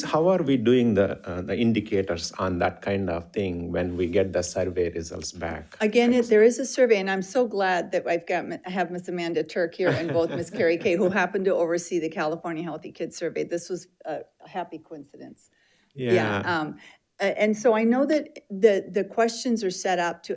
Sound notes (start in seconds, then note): 9.8 laughs